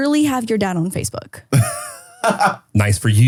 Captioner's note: laughs